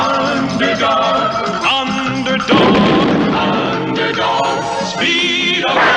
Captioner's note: explosion